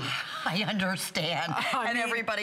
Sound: laughter

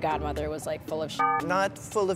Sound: beeps

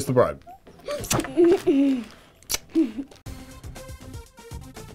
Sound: laughs; kissing sounds

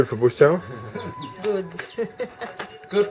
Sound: laughter

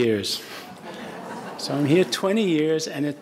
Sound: audience laughing

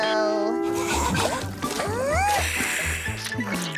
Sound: gasping

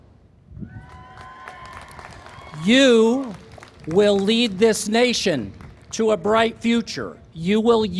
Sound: applause

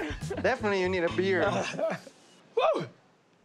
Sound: laughs

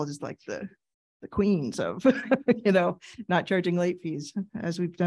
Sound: laughing

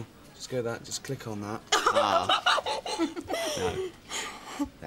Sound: laughs

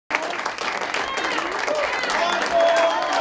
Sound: clapping

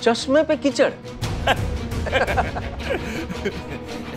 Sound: laughter

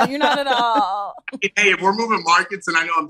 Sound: imitates farting noise

